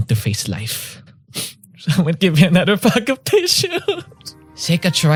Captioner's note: sobs